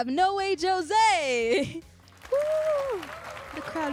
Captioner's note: applause and cheers